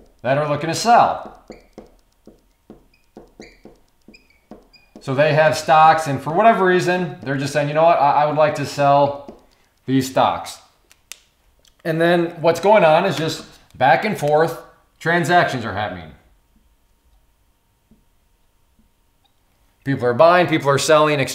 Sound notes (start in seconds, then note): 2.1 marker tapping